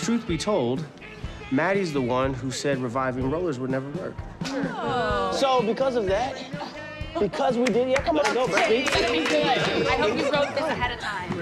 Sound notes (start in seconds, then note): 4.5 group exclaims; 7.6 clapping